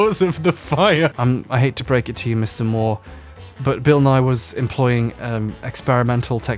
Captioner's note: deadpan